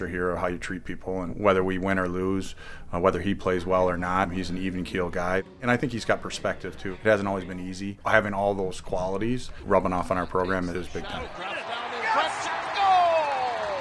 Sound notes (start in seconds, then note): 10.8 crowd cheers